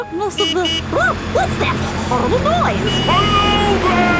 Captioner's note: honking